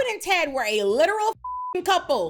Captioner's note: beep